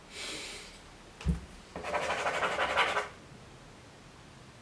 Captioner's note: crossing words out